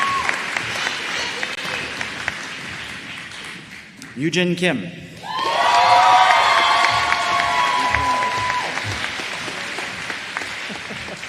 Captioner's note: applause